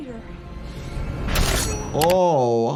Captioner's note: blade sliding